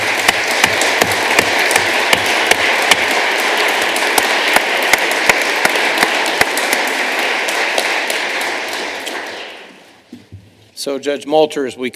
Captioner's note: applause